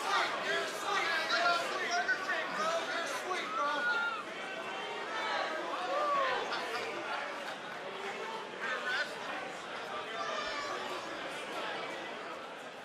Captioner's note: crowd chatter